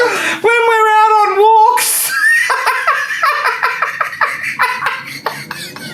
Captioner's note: laughing